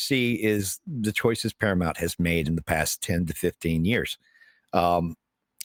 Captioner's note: none